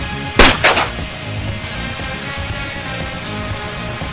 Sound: gun firing

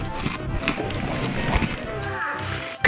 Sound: chews candy

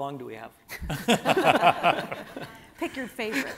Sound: everyone laughing

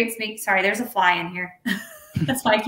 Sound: laughing

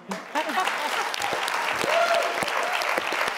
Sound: clapping

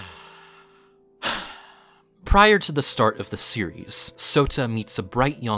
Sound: deep breath

